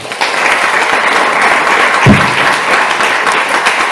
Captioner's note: applause